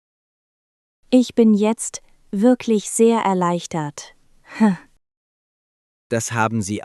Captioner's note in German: lacht